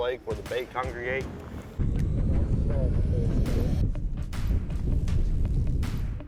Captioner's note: wind gusting